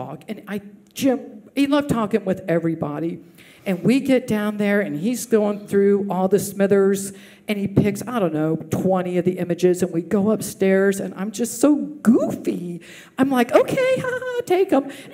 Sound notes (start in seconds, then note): none